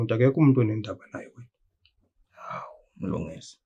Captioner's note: none